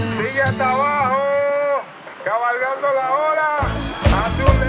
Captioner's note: sounds of bullhorn